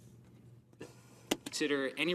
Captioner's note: speaking French